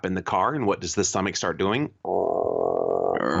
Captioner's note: growl sound